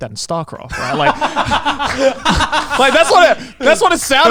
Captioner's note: laughs